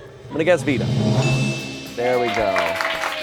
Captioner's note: bell dings; audience applauds